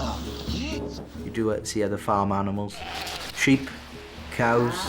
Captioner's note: sheep bleats; cow moos